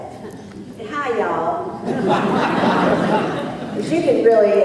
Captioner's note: laughter